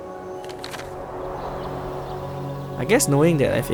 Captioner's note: gentle breeze blowing